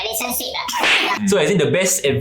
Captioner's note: slap